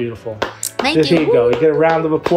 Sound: hands clapping

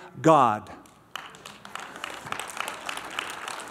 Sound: applause

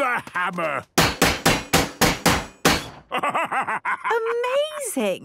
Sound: metallic bashing

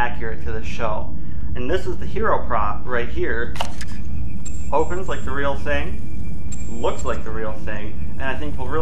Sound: chirping audio effects

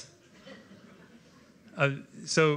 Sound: laughter

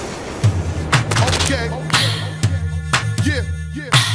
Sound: echoing

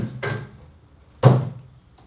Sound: thudding; thud

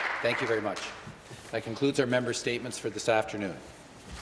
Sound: applause

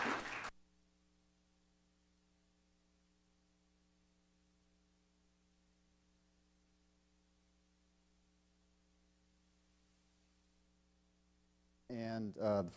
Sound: pause

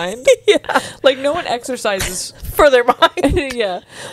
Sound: laughs

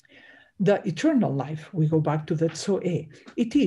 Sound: speaks in Greek

